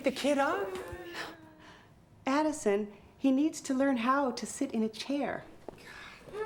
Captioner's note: scoffs